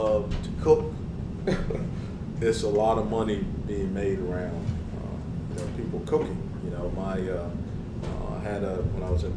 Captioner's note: laugh